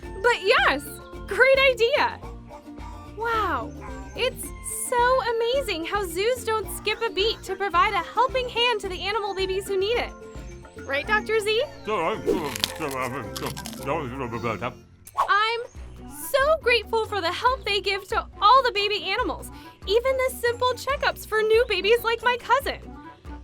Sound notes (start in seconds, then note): 14.5 mumbling